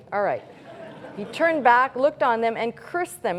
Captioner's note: laughter